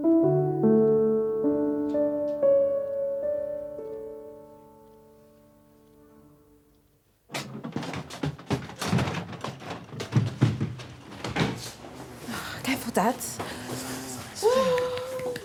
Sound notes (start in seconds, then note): 7.3 door creaking opening; 14.4 Evelyn clapping